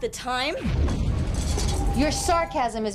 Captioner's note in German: Explosion